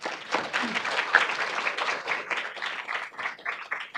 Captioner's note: audience applauding